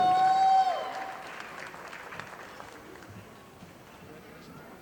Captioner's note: audience applauding